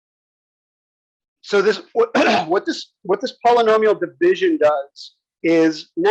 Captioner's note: cough